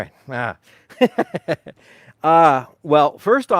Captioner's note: laughing